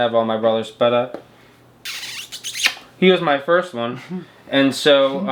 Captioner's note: smooches